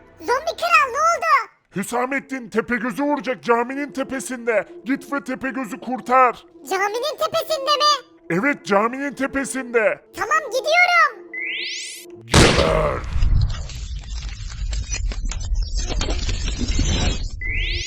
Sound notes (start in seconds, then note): 11.3 teleport sound